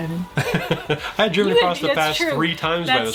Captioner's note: chuckles